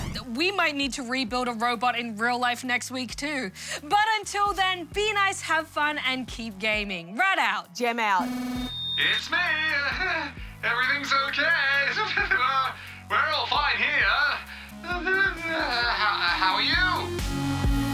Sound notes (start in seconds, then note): 11.9 laughs weakly; 14.6 groans